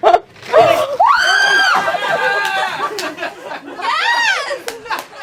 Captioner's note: squealing; laughing